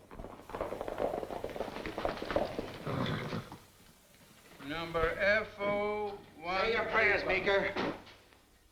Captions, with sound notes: [ Horse nickers ] Number F01-- Say your prayers, Meeker.